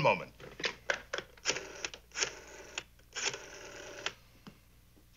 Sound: dials rotary telephone

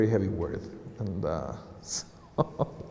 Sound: laughter

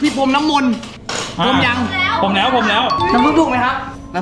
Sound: pat

